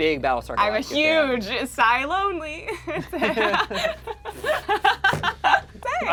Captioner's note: laughs